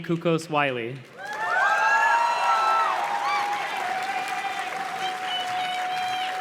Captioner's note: audience cheers and claps